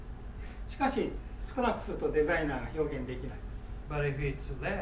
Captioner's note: speaking in foreign language